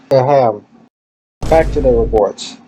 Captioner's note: boom